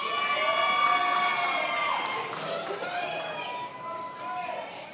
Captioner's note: attendees applauding